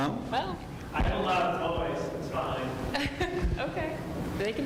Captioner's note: laughs